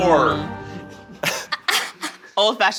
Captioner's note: laughing